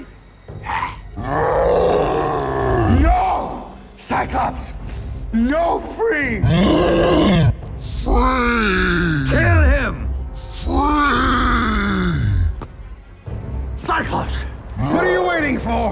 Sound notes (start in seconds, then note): 0.8 growls; 6.4 roars